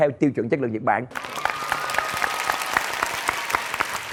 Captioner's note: applause